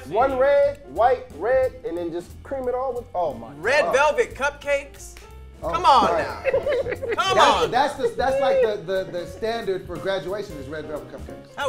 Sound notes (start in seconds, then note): 5.8 group laughs